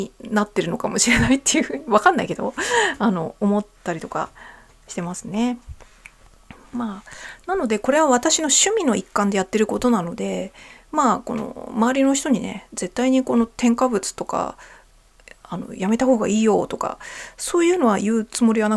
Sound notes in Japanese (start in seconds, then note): 1.0 笑い; 2.6 息をのむ音